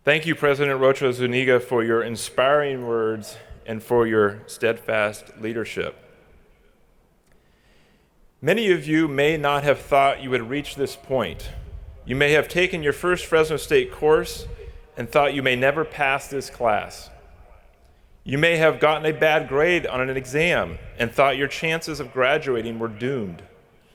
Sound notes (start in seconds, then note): none